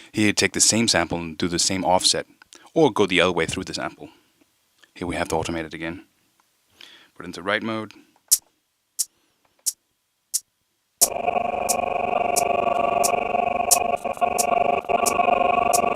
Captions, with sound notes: Here you take the same sample and do the same offset or go the other way through the sample. Here we have to automate it again. Put it into write mode. (sound sample stuttering)